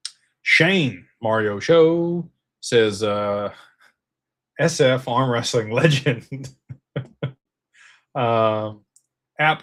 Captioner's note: laughter